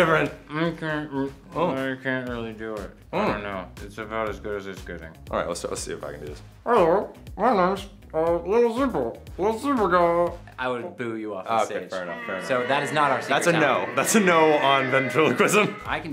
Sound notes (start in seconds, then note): 12.0 audience track booing